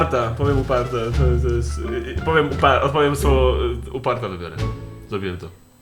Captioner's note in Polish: anxiety noises